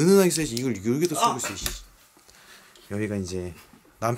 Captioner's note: scream